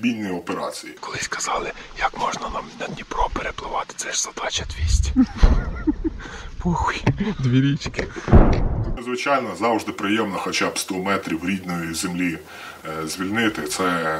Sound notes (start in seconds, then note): 8.2 sound of explosion